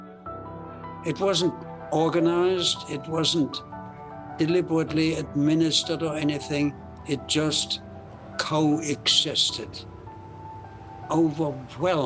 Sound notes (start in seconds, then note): 10.2 soft bustling sound